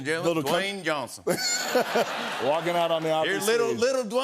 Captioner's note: laughter